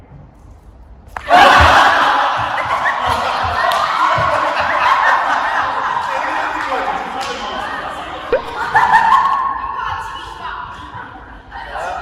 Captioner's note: snap